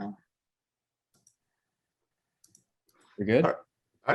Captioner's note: mouse clicking